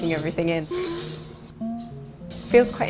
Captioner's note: robots whirring